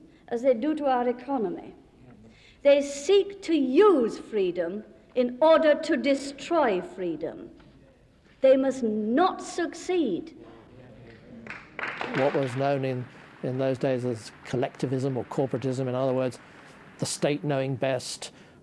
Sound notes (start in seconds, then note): 11.3 clapping